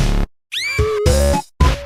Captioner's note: scream plays with 'eek'